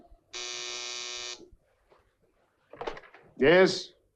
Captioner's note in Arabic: رنين الهاتف